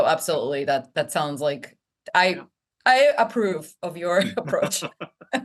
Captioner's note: laugh